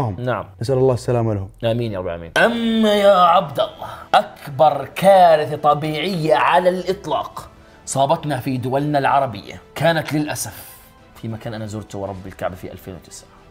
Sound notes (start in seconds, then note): none